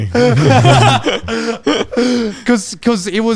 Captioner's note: all laughing